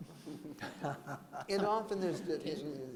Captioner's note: laughter